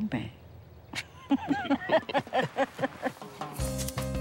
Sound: both laugh

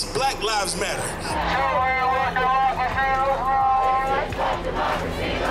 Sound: crowd chanting

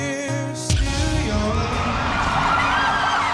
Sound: cheers and applause

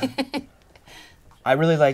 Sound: laughter

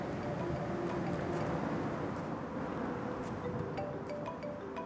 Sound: cellphone ringing

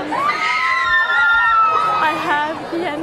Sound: screams

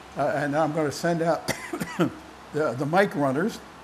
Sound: coughing

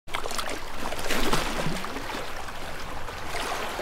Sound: water splashing

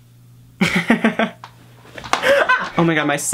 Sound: laughs

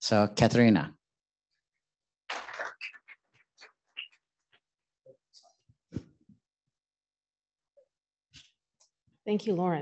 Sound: applause

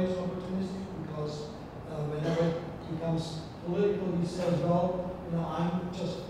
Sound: speaking foreign language

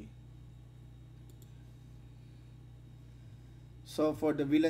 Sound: click

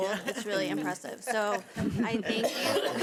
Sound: people laughing

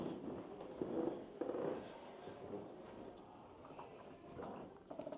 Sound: stairs creaking

